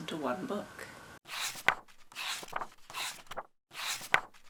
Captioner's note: pages turning